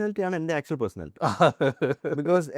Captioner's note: laughs